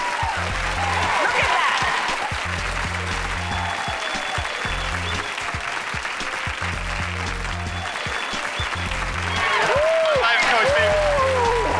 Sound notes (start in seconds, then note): 1.1 applause; 3.3 whistling